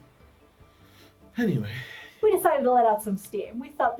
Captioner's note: sighs